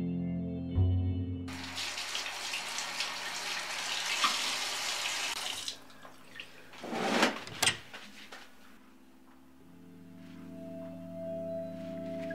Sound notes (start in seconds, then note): 4.2 running water; 7.4 door locks